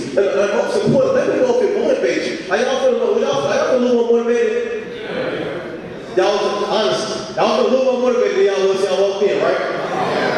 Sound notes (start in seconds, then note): 4.8 audience speaking